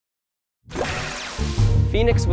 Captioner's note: swooshing Sound